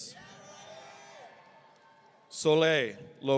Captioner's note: audience cheering